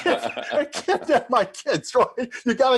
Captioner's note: both laughing